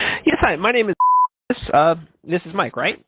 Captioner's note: beep